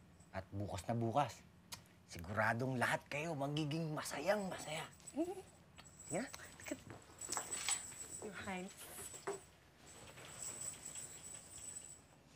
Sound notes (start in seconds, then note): none